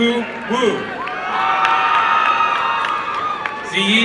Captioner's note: applause and cheering